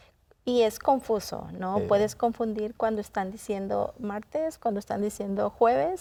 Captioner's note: continues speaking in Spanish